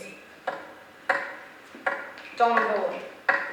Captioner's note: tip-tapping of cane